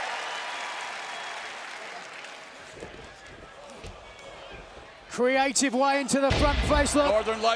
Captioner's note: cheers and applause